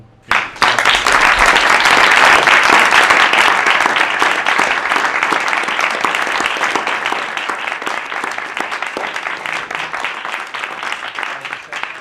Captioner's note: applause